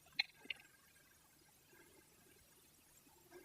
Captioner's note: none